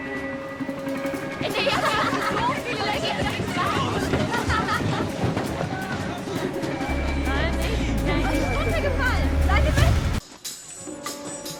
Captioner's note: children giggling, speaking in German